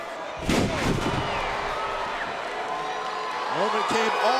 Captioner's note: body thuds